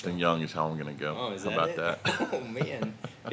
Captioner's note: chuckles